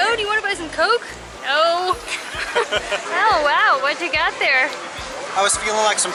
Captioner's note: laughter